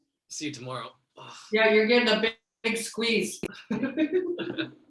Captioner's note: laughing